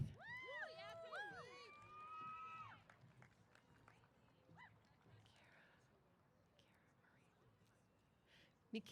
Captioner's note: applause & Cheers